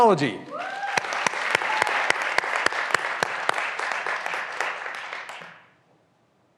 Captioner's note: graduands cheering and applauding